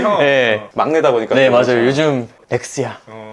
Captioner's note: laugh